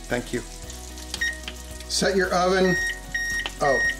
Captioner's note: oven beeping